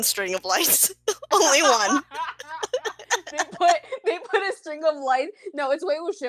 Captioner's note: laughter